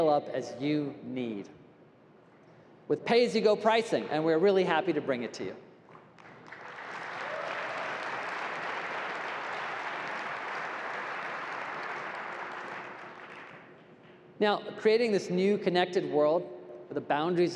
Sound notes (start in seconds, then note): 5.9 applause